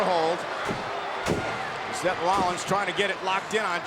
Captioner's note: feet thudding